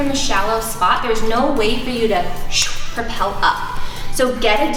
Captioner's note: exhales sharply